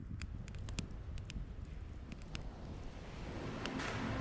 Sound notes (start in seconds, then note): 0.0 fire crackles